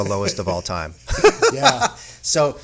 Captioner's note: laughing